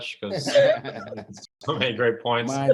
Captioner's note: laughing